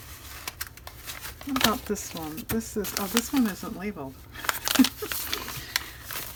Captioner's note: laughs